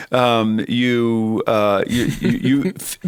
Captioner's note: chuckle